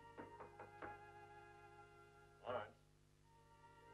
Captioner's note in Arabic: طرق خفيف